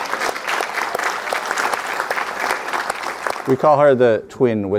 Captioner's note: audience applauding